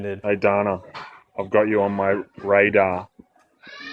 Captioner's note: male Voice